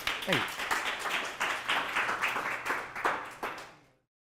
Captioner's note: applause